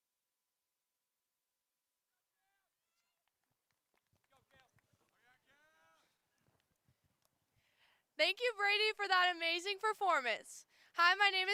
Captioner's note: applause